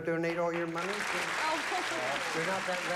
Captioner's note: laughs